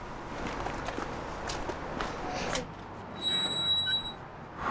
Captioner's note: footsteps; squeaky Gate